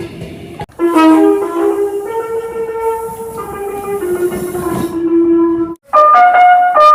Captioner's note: air Horn + Music Horn